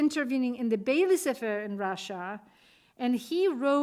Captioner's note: speaking Russian